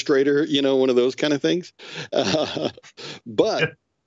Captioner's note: chuckles